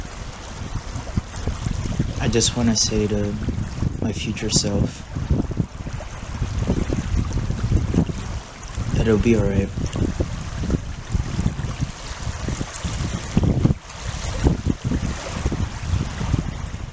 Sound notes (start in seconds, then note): 5.6 waves crashing in distance; 7.3 wind howling; 10.9 waves lapping; 13.9 wind howling